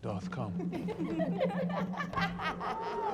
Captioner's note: women laughing